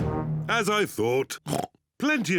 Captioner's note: oinks